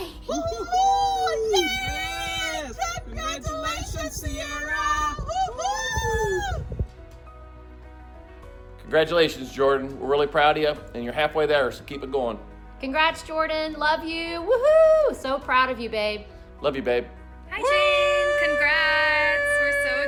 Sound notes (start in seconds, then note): 5.3 whooping